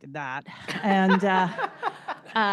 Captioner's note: laughter